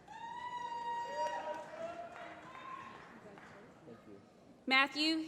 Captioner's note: applause